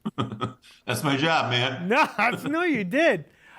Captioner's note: laughs